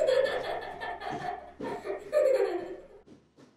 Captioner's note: child laughing